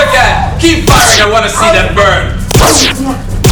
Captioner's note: laser noise; laser noises